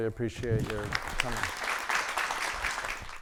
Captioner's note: audience applauding